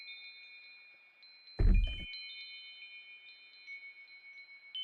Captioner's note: door opening